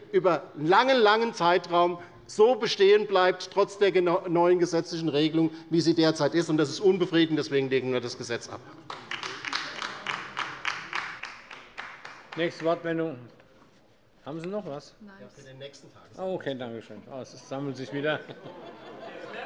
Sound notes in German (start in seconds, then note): 8.8 Beifall bei der LINKEN